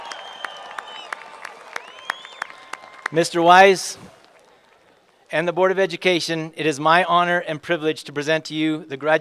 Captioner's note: cheerpland apause